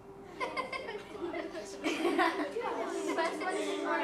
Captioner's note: kids laugh, chatter